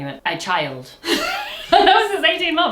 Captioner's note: both laugh